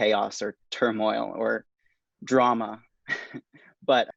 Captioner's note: laughs